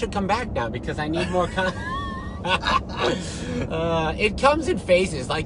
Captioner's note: laughing